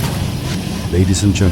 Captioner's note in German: schüsse